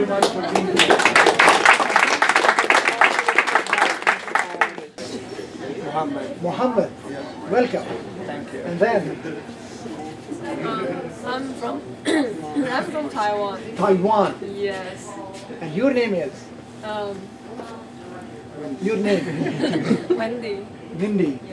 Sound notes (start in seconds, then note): 0.1 applause